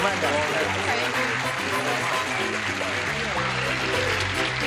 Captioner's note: applause; theme music